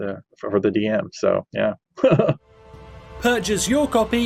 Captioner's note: laughs